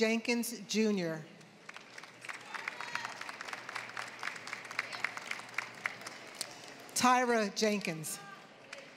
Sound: applause; applause

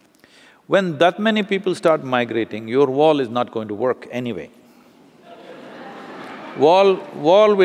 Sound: laughter

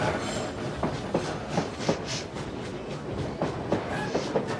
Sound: sniffs

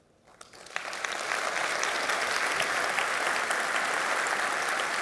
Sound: audience applauding

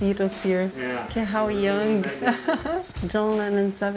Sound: laughs

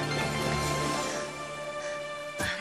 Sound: panting

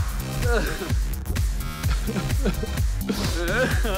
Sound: sobbing

